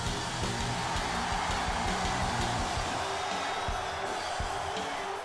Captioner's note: audience cheers